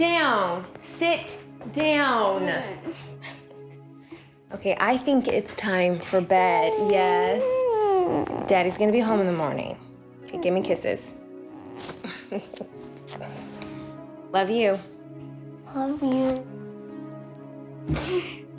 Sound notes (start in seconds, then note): 6.3 whines; 12.0 chuckles